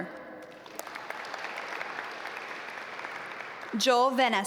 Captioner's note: audience applaud